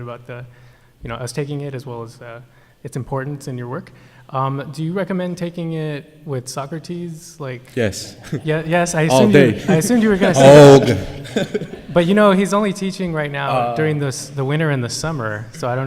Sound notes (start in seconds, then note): 9.0 laughs; 12.0 laughter